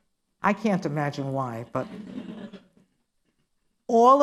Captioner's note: laughter